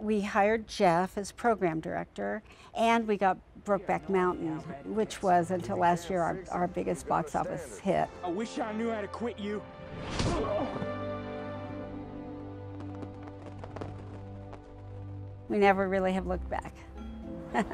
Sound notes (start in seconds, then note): 10.1 fist punch sound; 11.7 fireworks popping; 17.5 laughs